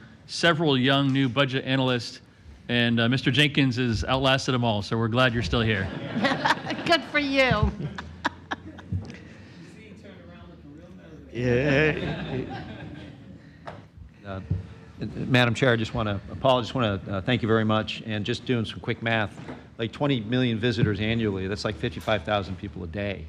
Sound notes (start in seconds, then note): 11.6 laughter